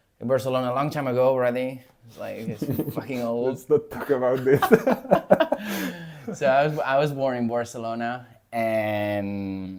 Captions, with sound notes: in Barcelona a long time ago already. Like, it's fucking old. [laughs] Let's not talk about this. [laughs] So, I w- I was born in Barcelona. And,